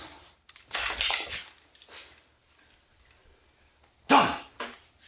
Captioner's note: gun clicking